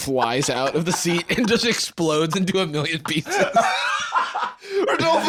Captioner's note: laughs